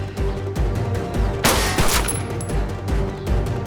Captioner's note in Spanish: Disparos